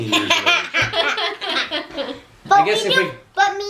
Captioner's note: laughter